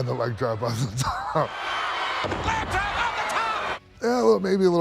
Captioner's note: laugh